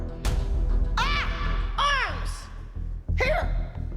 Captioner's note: yelling